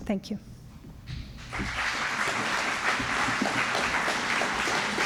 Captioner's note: applause